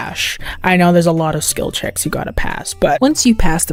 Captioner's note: inhales